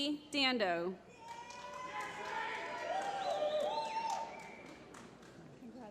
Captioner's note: applause